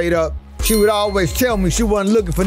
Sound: subscription bell chimes

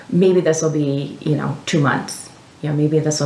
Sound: none

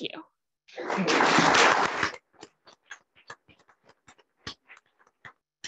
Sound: audience clapping

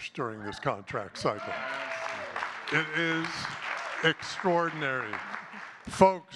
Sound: audience cheers and claps

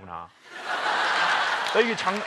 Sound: laugh

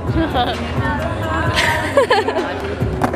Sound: laughter

